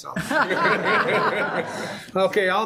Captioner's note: all laughing